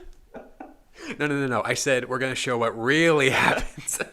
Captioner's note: laughing